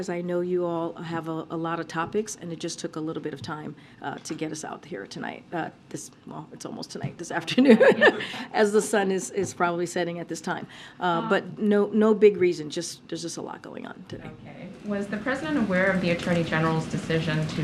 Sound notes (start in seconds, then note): 7.6 laughs